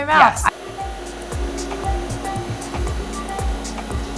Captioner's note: machine whirring